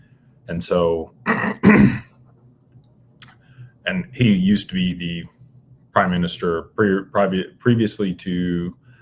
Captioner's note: clears throat and cough